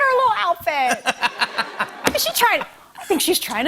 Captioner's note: laughter